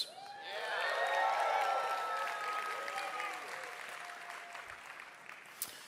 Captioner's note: เสียงปรบมือ